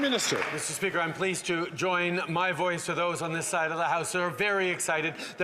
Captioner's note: applause